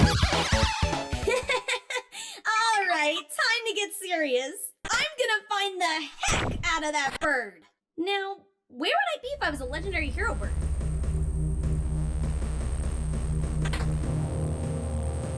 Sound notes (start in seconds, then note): 1.2 laughs